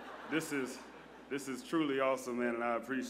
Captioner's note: laughter